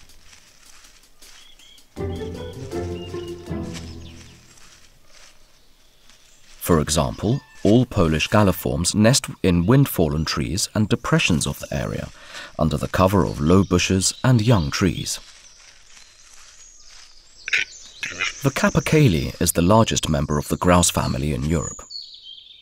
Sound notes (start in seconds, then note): 0.1 sounds of nature; 11.1 sounds of nature